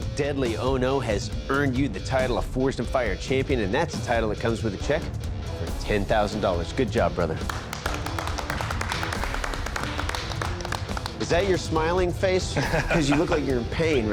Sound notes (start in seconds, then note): 7.4 applause